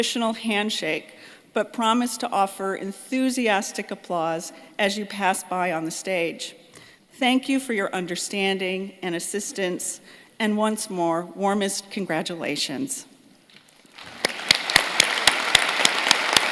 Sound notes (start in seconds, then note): 15.6 applause